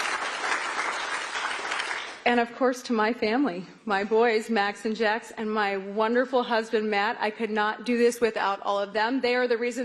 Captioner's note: applause